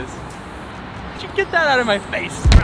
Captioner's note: traffic passes